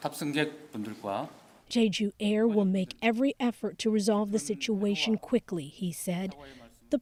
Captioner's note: speaking alternate language